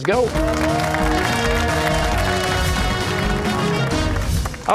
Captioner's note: cheers and applause